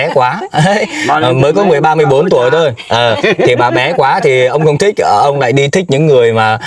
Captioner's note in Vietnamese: tiếng cười